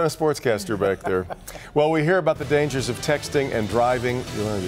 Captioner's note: laughs